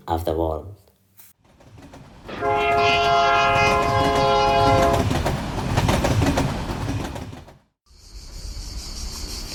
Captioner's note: train tracks